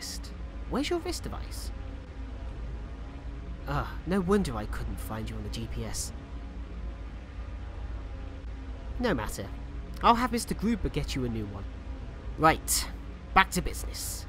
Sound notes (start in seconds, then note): none